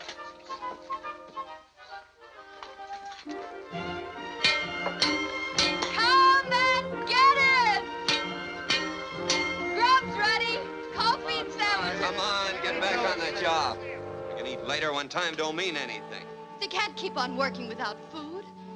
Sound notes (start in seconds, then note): 4.3 clanging; 8.1 clanging